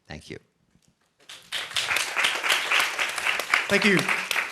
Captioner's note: applause